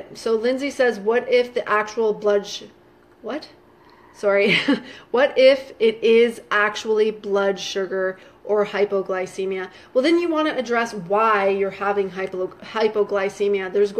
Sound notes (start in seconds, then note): 4.4 laughing